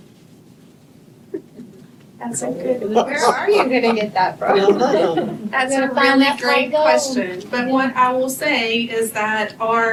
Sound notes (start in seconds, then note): 3.0 laughter